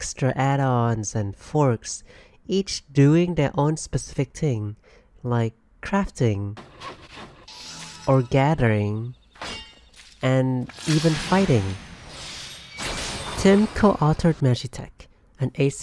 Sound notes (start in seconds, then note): 6.6 carpenter crafting noise; 8.7 mining rock noise; 11.3 Red Mage fighting noise